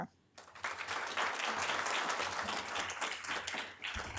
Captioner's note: audience applauding